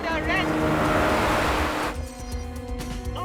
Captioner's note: boat engines revving